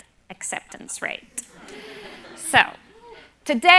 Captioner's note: laughter